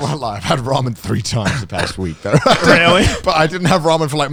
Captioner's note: chuckles